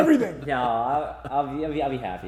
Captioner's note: laughing